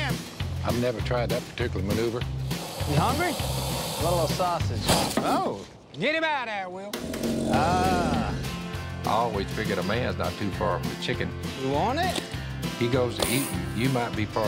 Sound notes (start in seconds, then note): 7.0 growling